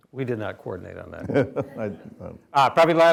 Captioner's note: chuckling